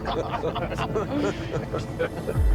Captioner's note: all laugh